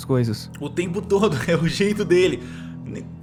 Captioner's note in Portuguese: risos